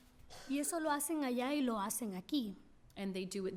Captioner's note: speaking spanish